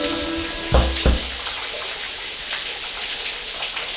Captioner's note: knocks on bathroom door